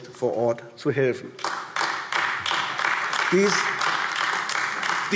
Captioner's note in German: Beifall AfD